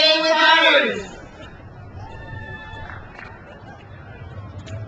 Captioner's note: crowd cheers